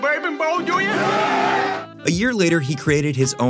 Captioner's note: cheering